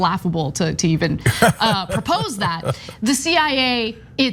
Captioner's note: laugh